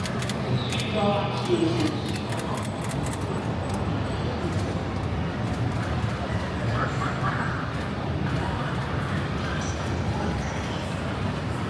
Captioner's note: wind